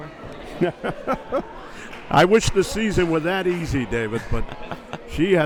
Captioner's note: laughs